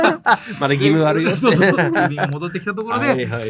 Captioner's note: laughs